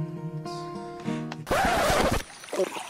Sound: record scratch

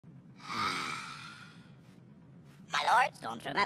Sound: sigh

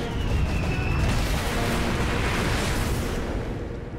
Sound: booming

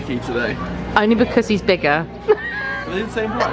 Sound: laughs

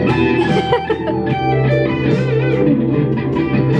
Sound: laughing

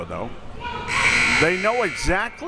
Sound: buzzer

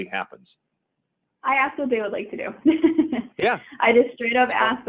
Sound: chuckling

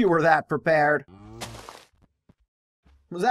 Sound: cow moos, digging sounds

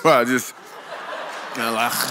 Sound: congregation laughs

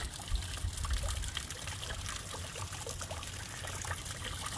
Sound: splash

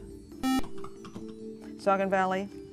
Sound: buzzer

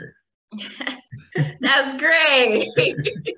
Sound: laughter

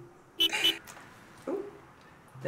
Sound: car horn honks

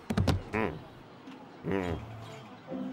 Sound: grunts

